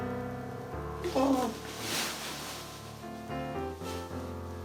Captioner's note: groaning